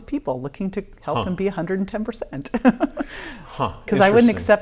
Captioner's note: laughing